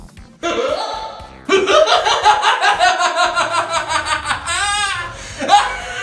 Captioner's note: laughs manically